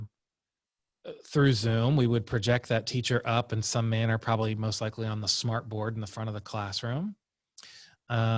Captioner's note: through Zoom